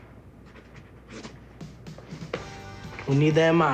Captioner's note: pencil scratches